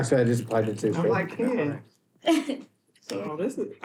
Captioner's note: chuckling